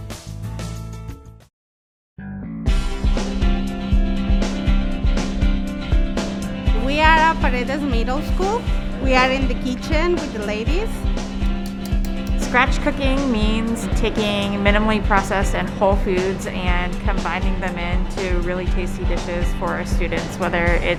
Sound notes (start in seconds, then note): 2.6 bright music; 11.4 spoon knocking